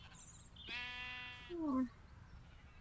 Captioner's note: baaaa